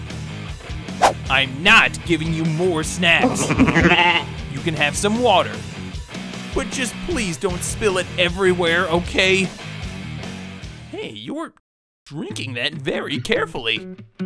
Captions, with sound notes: I'm not giving you more snacks! (bleating) You can have some water. But just please don't spill it everywhere, OK? Hey, you're... drinking that very carefully!